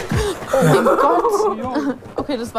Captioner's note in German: Lachen